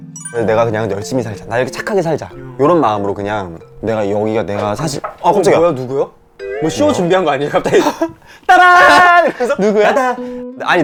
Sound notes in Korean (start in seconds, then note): 4.6 똑똑똑